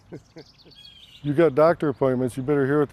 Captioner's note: laughs